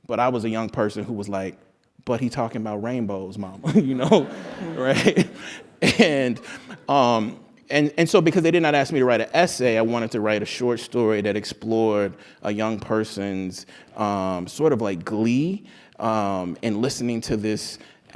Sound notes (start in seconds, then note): 3.6 laugh